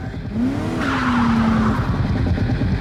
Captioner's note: tires screeching